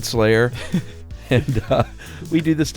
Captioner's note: laughter